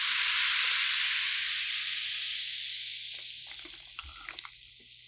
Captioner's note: always cool carbonated sound~